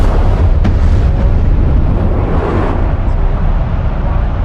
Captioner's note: rocket blasting